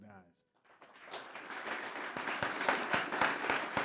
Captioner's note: applause